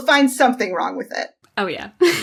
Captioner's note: laughs